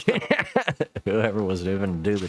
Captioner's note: laughing